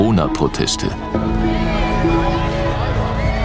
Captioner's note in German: Stimmengewirr